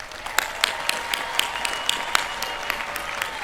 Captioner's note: cheering